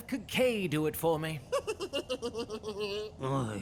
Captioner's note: KIKKAY snickers